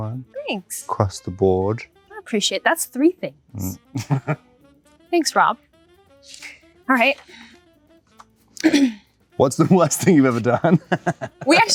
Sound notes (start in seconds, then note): 3.6 Rob chuckles; 9.7 laughs